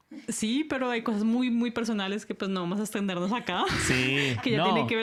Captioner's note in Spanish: risas